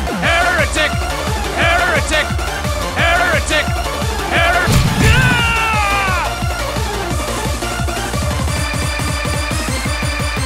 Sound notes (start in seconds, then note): 4.6 bolter fire